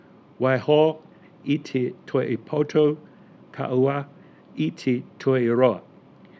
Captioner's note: speaking foreign language